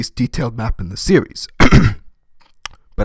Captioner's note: coughing